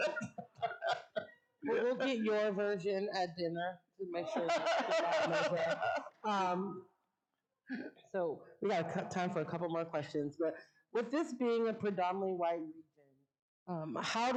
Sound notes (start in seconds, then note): 4.2 audience laughing